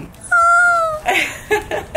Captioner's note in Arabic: صرخة كريستال; كاري تضحك